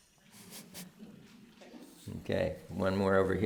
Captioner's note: laughs